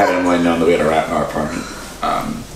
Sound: laughs

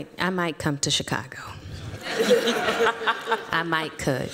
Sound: laughter

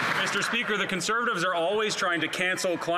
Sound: some Applause

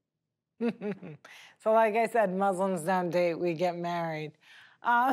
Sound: laughing

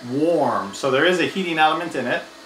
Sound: air blows

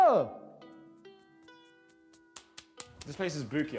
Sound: smacks hands together

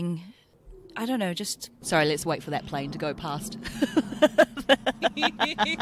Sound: laughs

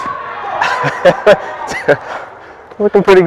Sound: laughing

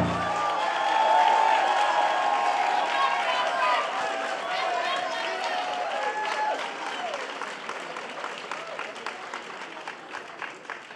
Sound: applause

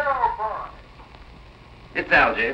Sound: on phone

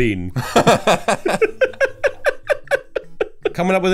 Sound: laughter

